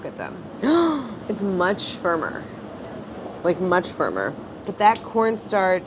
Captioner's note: gasps